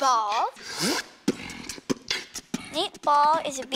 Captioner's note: beatboxing